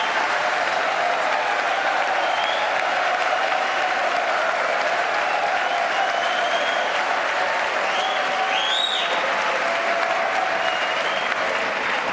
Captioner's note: cheers and applause